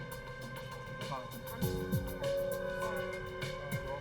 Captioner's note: chatter